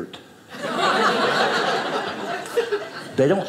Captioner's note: audience laughing